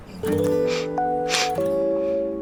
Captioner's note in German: schnaub